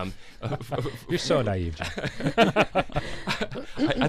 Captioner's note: both laugh